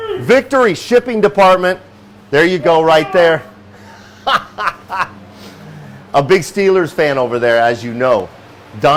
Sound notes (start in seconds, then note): 4.4 laughs